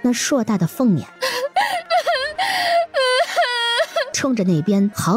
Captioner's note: gasps; cries out